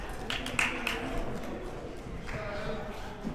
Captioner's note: clapping